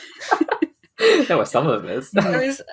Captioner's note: laughing; laughs